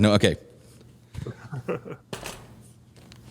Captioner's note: laughter